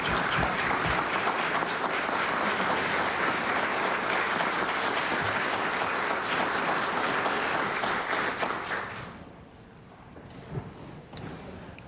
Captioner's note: applause